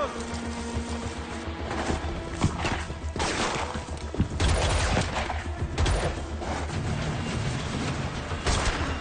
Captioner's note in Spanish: Disparos